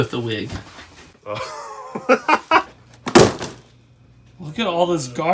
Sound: laughs

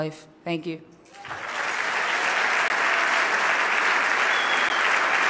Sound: loud clapping

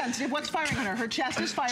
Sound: laughter

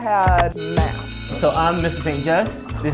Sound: bell ringing

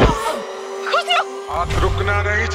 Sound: moaning

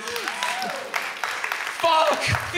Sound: audience cheers

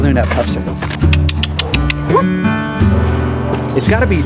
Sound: tongue clicking

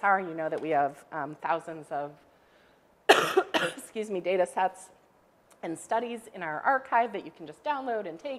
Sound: coughs

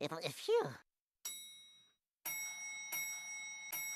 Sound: elevator bell dinging

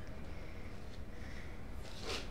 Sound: none

